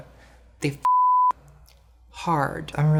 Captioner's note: beep